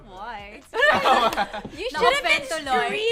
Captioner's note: laughter